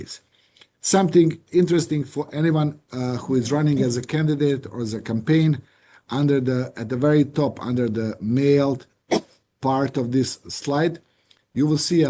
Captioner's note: cough